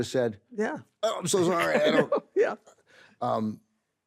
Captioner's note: laughs